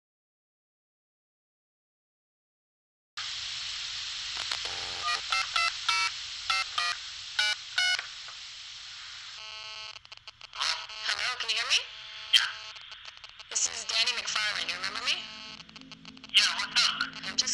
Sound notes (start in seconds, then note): 8.2 phone keypad beeping; 8.2 static buzzing